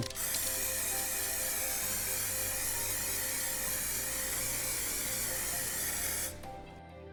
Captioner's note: spray hisses